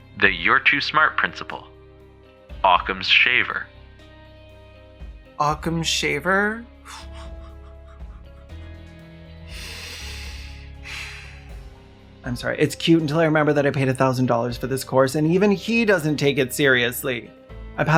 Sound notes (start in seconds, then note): 6.8 craughing; 9.4 congested inhale